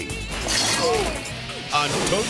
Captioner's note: fence rattling